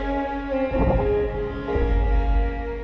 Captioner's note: arrow wooshes